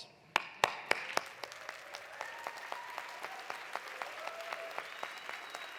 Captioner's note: audience applauding; audience cheering